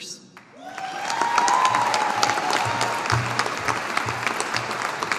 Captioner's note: audience applauding